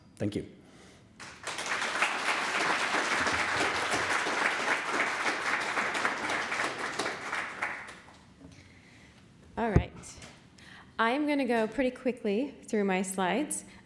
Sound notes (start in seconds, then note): 4.5 applause